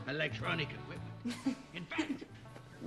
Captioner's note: laughs